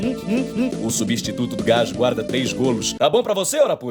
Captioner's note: Portuguese accent